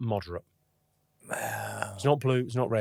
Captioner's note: Jamali grumbles